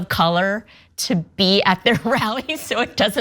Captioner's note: laugh